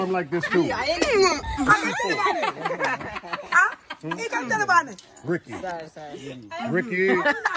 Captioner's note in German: La risa